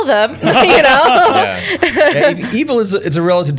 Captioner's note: laughter